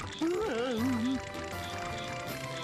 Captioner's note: whimpering